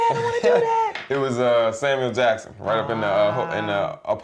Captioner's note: laughter